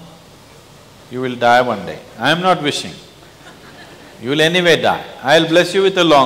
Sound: laughter

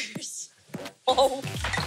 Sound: dishes clanking

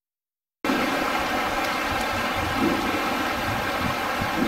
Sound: loud thumping

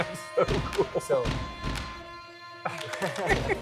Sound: laughs

